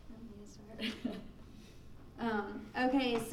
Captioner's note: laughing